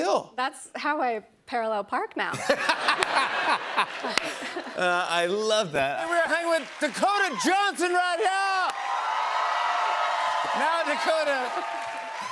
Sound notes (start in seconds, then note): 2.3 laughter; 7.9 cheers and applause